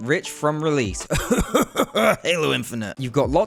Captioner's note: coughing noises